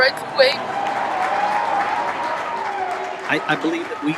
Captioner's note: crowd cheers